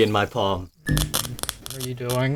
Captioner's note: static crackling, fizzing